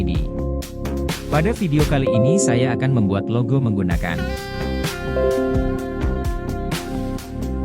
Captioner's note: obs notification beep